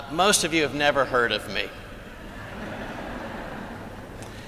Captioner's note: laughter